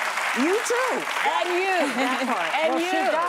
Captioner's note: applause